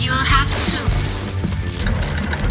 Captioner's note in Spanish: bzzzt